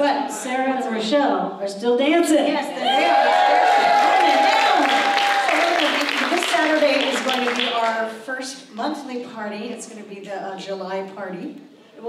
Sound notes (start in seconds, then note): 2.8 audience cheers